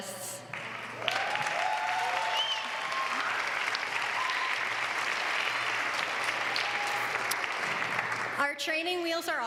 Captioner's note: applause